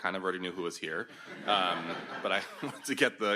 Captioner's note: audience laughs